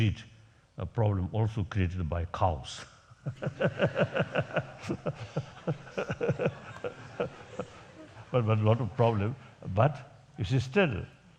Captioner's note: laughs